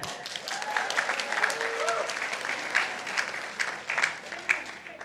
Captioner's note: participants applauding